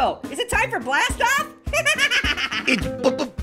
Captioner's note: laughs